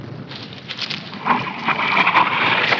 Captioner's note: artillery whizzing